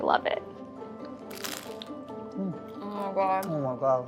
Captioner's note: crunching